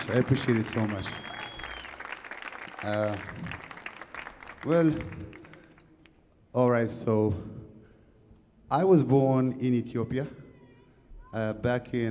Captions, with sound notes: I appreciate it so much. (audience clapping) (audience cheering) Well, all right. So I was born in Ethiopia back in 1980.